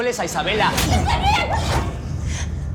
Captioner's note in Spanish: Grito